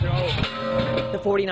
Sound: metal dummy hitting the ground

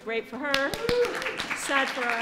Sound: applause

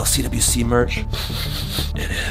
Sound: sniffs shirt

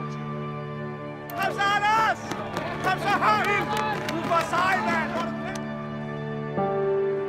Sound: dramatic somber music; people cheering in a foreign language

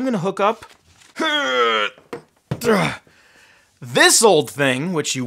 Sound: grunting

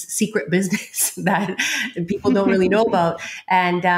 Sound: both laughing

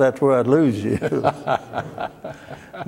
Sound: laughter

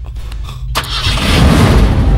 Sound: engine starts

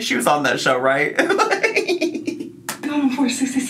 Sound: laughing

